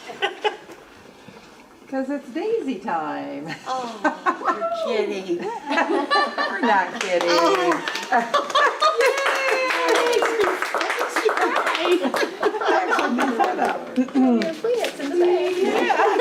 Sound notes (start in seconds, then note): 5.4 laughter; 9.3 laughter, applause